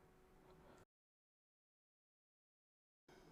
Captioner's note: silence